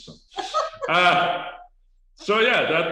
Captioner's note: laughs